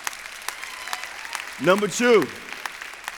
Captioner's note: applause